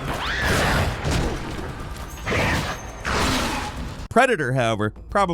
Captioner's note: alien grumbles; gunshots